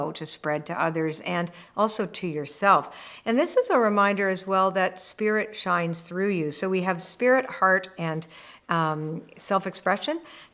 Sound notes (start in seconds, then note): none